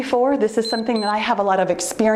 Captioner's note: timer beeps